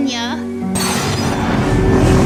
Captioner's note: transport assault ship lifting off